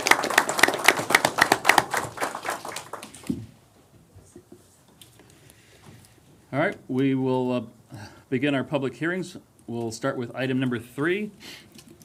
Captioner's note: applause